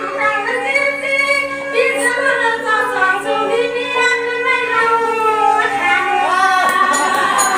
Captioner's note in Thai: ปรบมือ